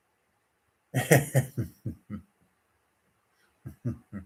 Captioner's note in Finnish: naurua